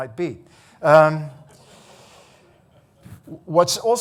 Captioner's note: audience laughing